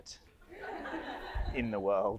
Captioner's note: audience laughs